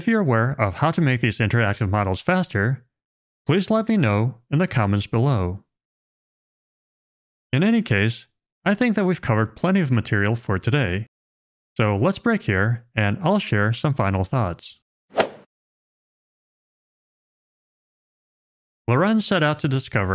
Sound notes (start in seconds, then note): 15.1 golf ball hit sound effect